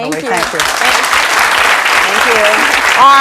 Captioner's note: audience clapping